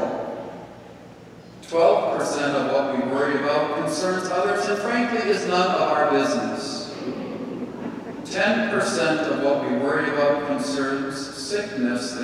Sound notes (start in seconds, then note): 6.8 congregation laughing